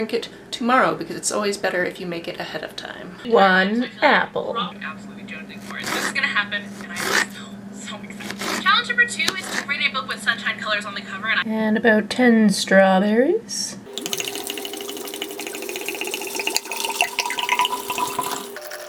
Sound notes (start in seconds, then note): 13.8 liquid pouring sounds